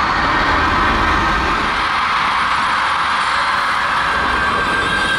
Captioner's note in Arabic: يبدأ الأداء بهتافات ضخمة من الآرمي